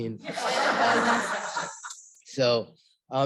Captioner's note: laughter